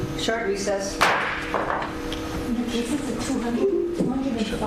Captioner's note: audience murmurs